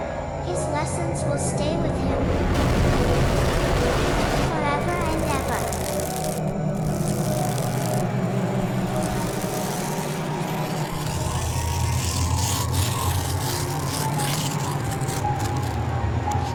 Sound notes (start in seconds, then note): 1.7 explosions; 6.3 scratching